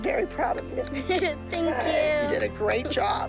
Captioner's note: laughs